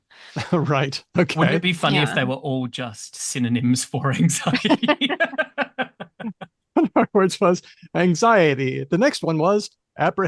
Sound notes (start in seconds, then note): 5.7 laughter; 7.9 laughs